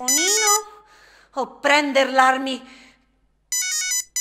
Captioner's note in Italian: vari squilli di telefoni